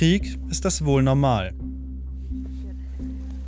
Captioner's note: uncomfortable sounds